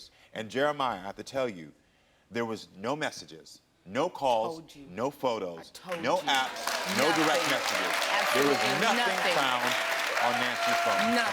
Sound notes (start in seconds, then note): 8.1 audience applauds